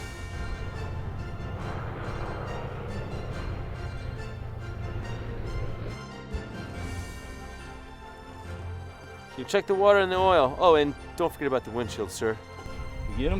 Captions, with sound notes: (thrilling music) (whirring) - You check the water and the oil, oh and don't forget about the windshield sir.